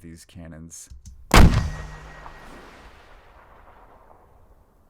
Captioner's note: cannon fires